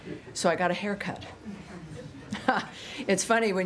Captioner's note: laughter